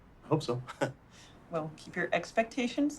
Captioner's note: laughs